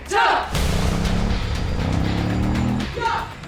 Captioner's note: group speaking in foreign language; slow rock music continues; motorcycle engine revs; group speaking in foreign language